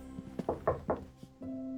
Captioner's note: knocks